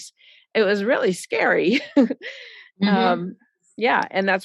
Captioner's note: chuckles